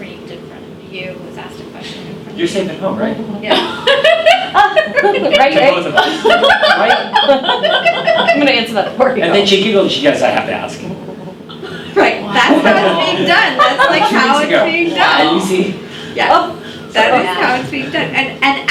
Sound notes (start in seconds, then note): 4.4 loud laughter